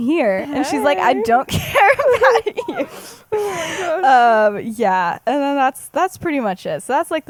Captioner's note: laughs